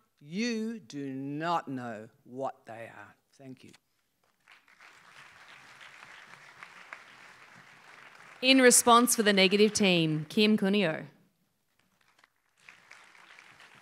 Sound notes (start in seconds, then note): 4.2 applause